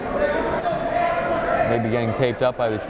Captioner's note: yelling